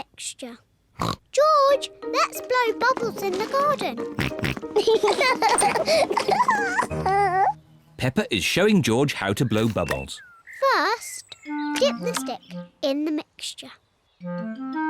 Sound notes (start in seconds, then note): 0.2 oinks; 4.1 both oink and laugh